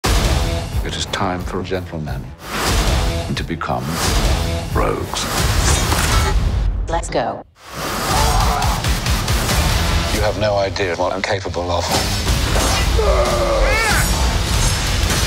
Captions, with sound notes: DUKE OF OXFORD It is time for gentlemen... ...to become... ...rogues. POLLY Let's go. DUKE OF OXFORD You have no idea what I'm capable of. [Yelling]